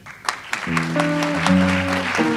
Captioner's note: audience applauds; light jazz music